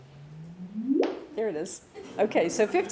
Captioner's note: bloop sound